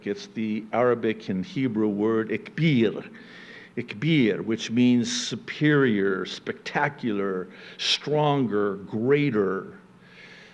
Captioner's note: speaking Arabic